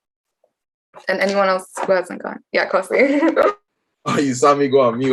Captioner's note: chuckles